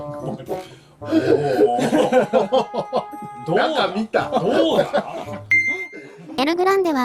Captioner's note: laughs